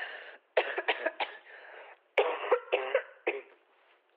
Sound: coughing

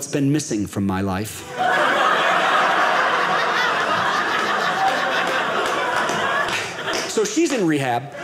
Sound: audience laughing

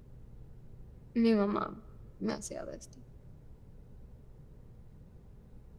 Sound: Spanish; Spanish

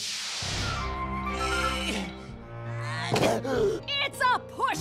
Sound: both groan

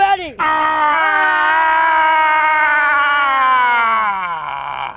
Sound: yelling

